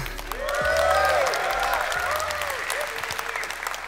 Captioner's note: applause